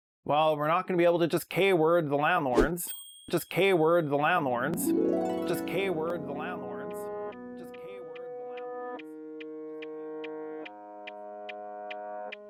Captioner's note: echoes